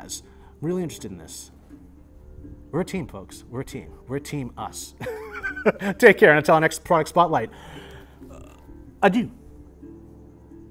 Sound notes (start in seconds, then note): 5.0 laughs